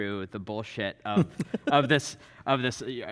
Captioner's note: laughing